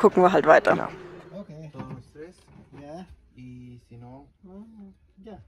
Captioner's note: in Spanish